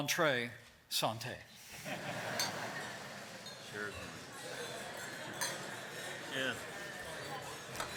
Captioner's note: laughter